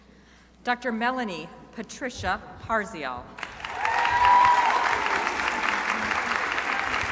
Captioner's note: crowd applauding